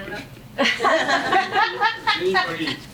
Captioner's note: audience laughing